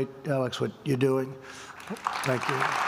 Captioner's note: applause